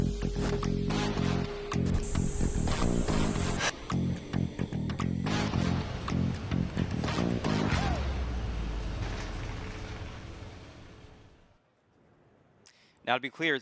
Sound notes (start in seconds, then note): 1.8 spray hissing; 4.5 machine whirring